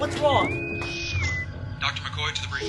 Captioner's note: bosun whistle